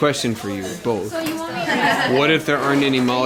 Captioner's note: laughter